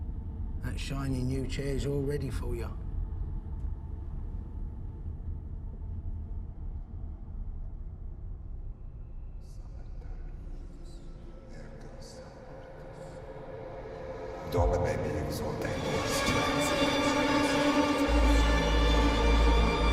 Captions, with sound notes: That shiny new chair's all ready for you. [William speaking in tongues] [William speaking in tongues] [tense music]